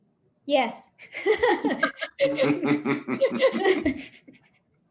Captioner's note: laughs